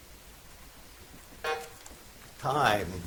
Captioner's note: buzzer buzzes